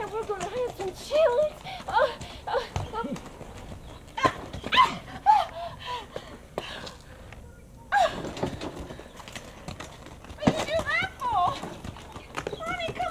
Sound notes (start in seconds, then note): 4.4 woman grunts